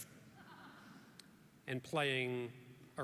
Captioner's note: audience chuckles